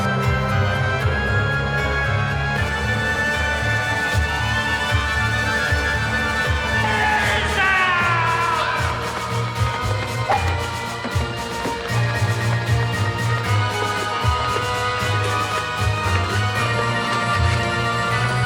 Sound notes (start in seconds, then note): 0.2 eerie and tense orchestral music; 8.5 tense orchestral music; 8.8 raven whooshing; 11.2 dramatic and tense orchestral music